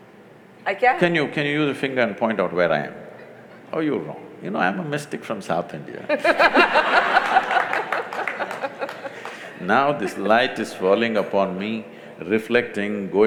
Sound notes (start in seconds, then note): 6.2 laughter/Applause